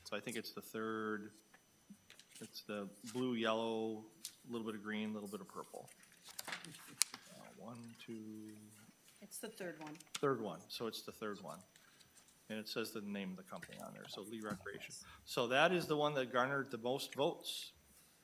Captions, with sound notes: So I think it's the third. It's the blue, yellow, little bit of green, little bit of purple. (attendee chuckling) One, two... It's the third one. Third one, so it's the third one, and it says the name of the company on there, so Lee Recreation. So that is the one that garnered the most votes,